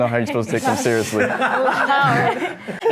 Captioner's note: laughter